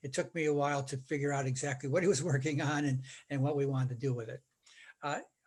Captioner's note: laughing